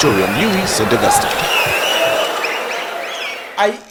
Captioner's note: wild applause and cheering for 22 seconds